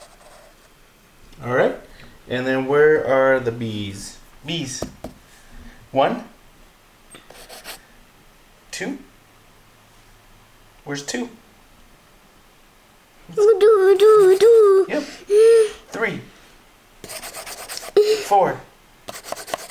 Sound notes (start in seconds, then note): 4.8 tapping; 13.3 babbles